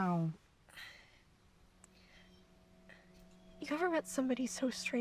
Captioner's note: soft dramatic music; Kaylee breathes uneasily